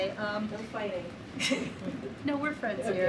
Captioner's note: laughter